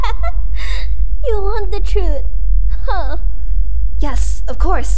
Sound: laughs

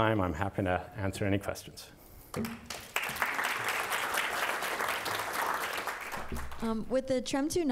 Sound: applause

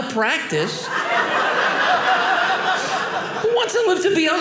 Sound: audience laughing

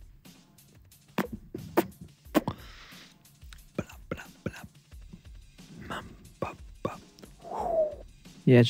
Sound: ASMR sounds

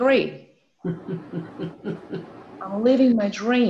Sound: laughs

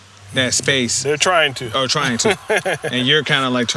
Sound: laugh

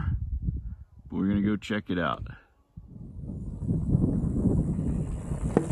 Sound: bike whirring

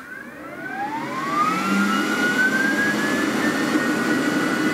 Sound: Glowforge buzzing

